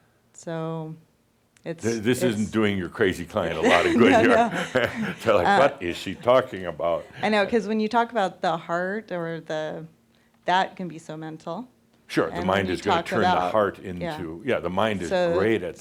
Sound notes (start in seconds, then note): 3.4 they laugh